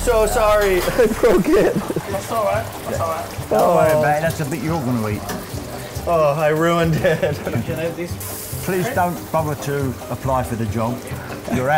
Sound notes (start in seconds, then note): 4.1 pops